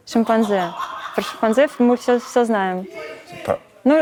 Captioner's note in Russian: Смех за кадром